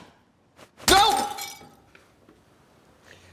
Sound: smash

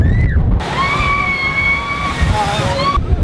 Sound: huge screams; screams

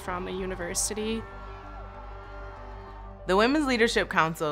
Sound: crowd cheering

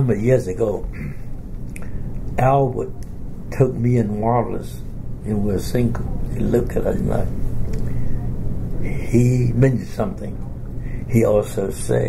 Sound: coughs

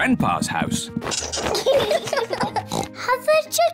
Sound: both giggling; oinks

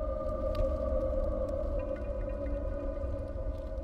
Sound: flames crackling

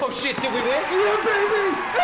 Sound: crowd roars

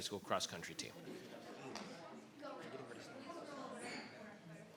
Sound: people chattering

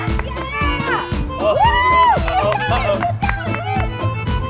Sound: cheering

